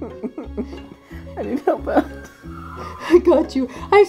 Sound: laughing

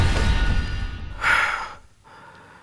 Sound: sighs

